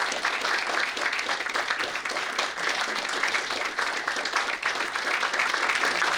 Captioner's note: audience applauding